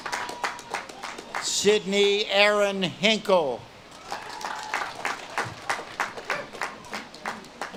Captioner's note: audience claps and cheers